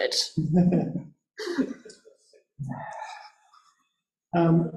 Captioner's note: laughing